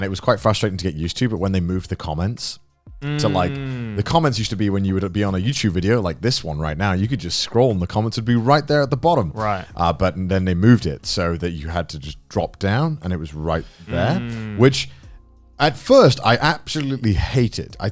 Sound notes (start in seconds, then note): 3.0 affirmative murmuring; 13.8 affirmative murmuring